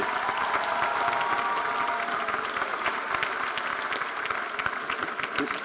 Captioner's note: audience cheering and applauding